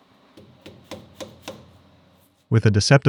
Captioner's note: taps knocking